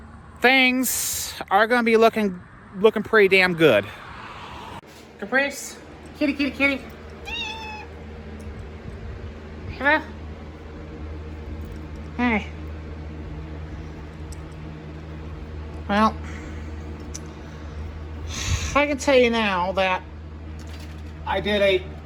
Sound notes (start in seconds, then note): 7.2 Caprice meows